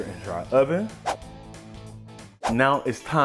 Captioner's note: whooshing